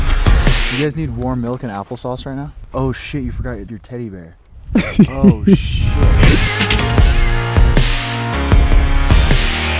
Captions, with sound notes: You guys need warm milk and applesauce right now? Oh, shit, you forgot your teddy bear (Laughing) Oh shit!